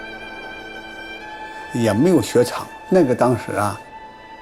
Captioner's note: speaking Chinese: English translation on screen